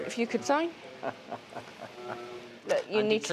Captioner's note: laughs